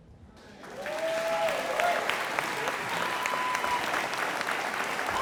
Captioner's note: audience applauding